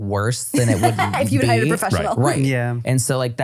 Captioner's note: laughing